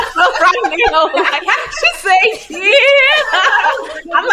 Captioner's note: all laughing; chuckling